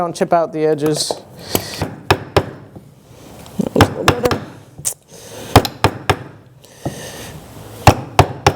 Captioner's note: hammer and chisel sounds